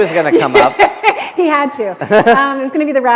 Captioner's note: laughter